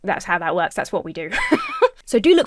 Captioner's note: Emma laughs